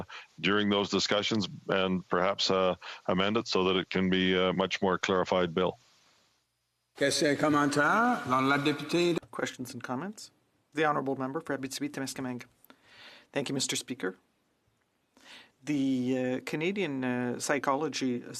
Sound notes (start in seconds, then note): 11.7 speaking French